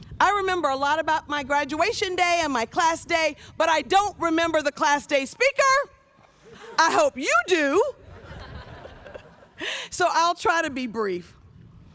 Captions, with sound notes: I remember a lot about my graduation day and my class day, but I don't remember the Class Day speaker. I hope you do, (audience laughs) so I'll try to be brief.